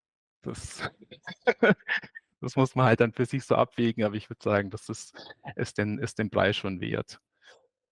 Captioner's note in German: lacht